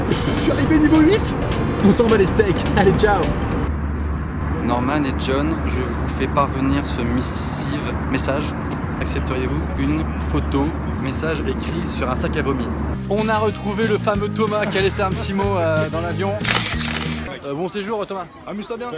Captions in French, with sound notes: Je suis arrivé niveau 8 !! On s'en bat les steaks ! Allez Ciao ! Norman et John, je vous fait parvenir ce missiv ... message Accepteriez vous une photo ? Message écrit sur un sac à vomi On a retrouvé le fameux Thomas qui a laissé un p'tit mot dans l'avion. *bruit de photos* Bon séjour Thomas